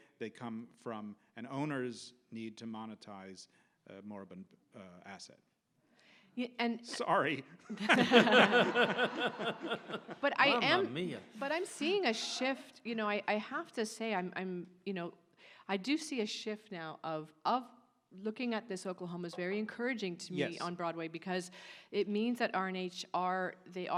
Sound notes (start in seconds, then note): 7.7 audience laughs